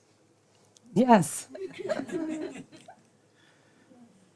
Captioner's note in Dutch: gelach